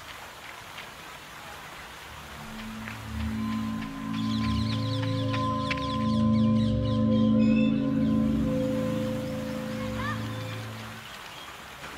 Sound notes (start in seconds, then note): 4.0 eerie music; 8.8 water rushing